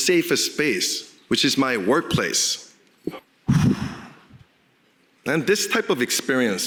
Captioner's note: sighs